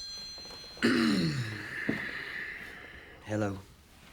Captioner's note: clears throat